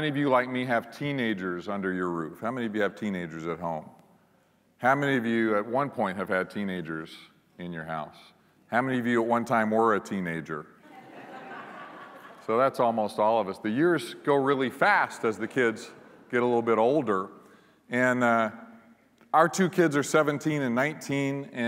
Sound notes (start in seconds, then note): 10.8 laughter